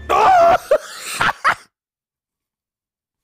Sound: laughter

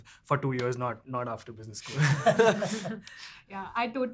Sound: laughing

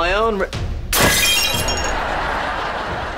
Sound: glass breaking

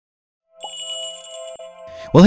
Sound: magical jingle

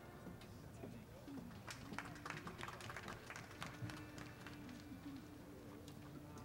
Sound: applause

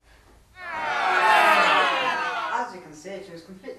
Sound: booing/jeering

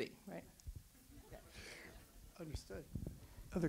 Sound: audience laughs

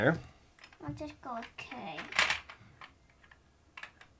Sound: voiceover

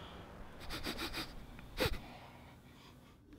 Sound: sniffing

